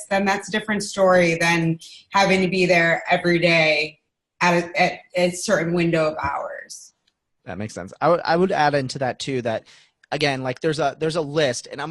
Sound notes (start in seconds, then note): none